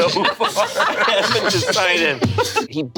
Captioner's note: group laughs